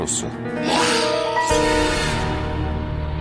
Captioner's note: screeching